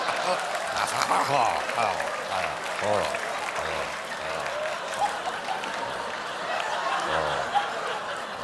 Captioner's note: applause; laughter; mocking